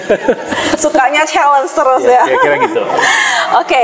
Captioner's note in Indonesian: hehehe; heheheh